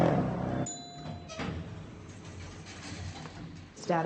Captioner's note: elevator bell dinging